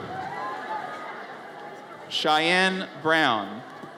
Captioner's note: audience cheers